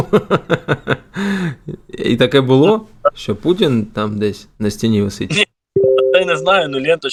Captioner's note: laughs